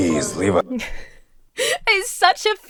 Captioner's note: Emma chuckles